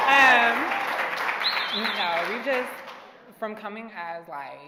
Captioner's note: cheering and applauding